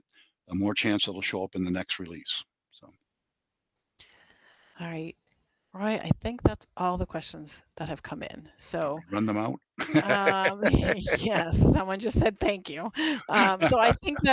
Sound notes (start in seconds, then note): 9.7 laughs